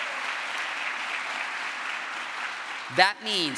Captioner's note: crowd applause